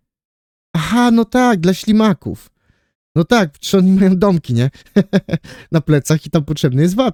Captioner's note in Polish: śmiech